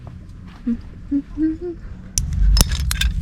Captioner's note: humming to myself